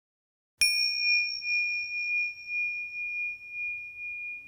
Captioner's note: dinging